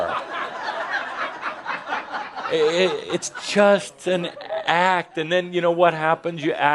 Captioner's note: laughter